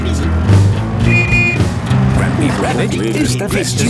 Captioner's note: honking